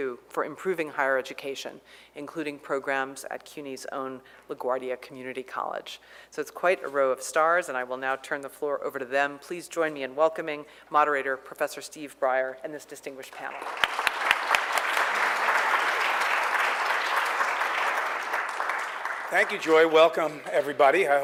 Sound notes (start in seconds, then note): 13.3 applause